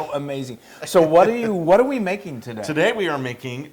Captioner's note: laugh